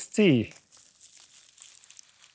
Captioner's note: rustling